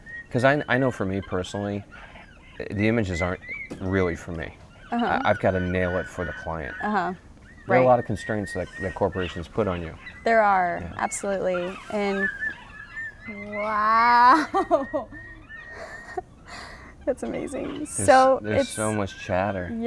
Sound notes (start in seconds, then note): 11.6 monkeys chirp